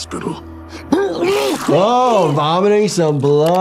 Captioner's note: Angstrom vomiting